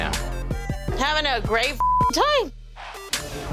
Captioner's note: beep